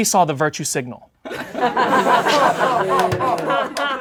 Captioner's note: laughing